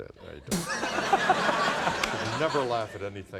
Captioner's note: laughter